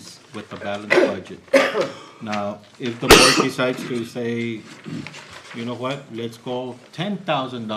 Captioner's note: cough and clears throat